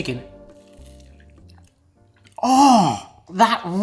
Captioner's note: crunching